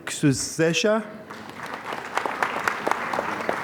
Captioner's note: applause